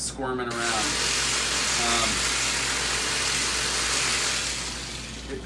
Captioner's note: machine whirring